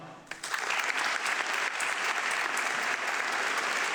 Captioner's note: audience clapping